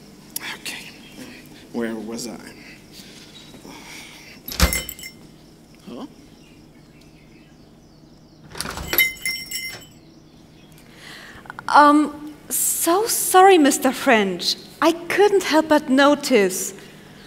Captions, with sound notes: Ok, where was I? [door closes] [door opens] Umh. So sorry Mr. French, I couldn't help but notice…